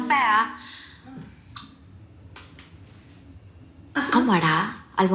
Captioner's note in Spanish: Canto de grillos